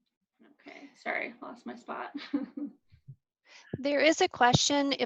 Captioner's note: laughs